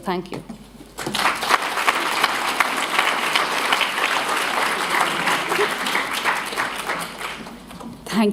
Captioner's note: applause